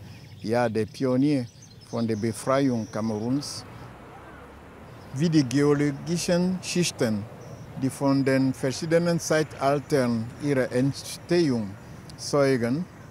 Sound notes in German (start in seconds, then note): none